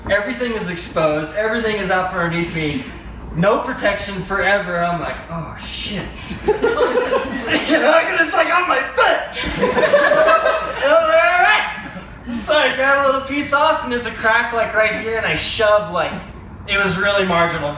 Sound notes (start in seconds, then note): 6.2 background laughter; 7.5 strained; 9.3 more laughter